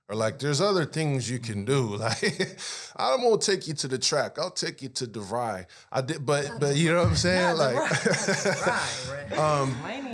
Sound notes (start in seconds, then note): 1.6 laughing